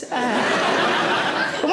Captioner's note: audience laughing